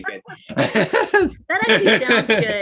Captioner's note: both laugh